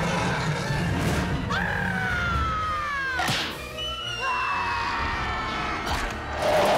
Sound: screaming

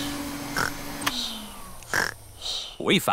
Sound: snores; whirring stops

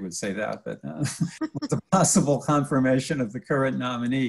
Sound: laughs

